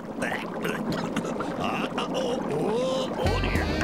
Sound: coughing and gurgling

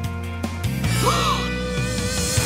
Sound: gasps

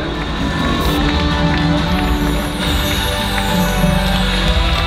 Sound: with applause

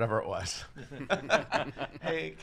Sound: laughs

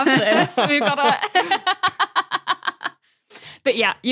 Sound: laughs

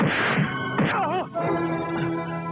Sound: groans

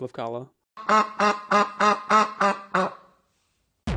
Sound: duck quacking

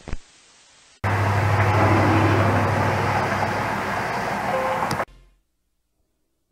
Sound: TV noises on camera

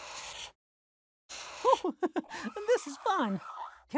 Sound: laughs

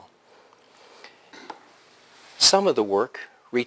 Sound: pause

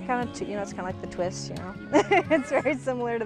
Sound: laughs

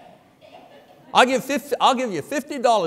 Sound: congregation laughing

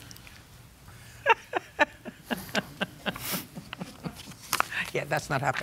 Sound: laughing

